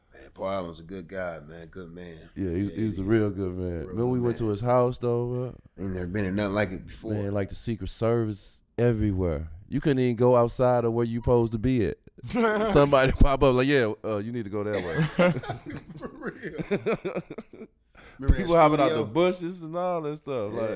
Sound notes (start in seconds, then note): 12.3 laughs; 14.7 laughing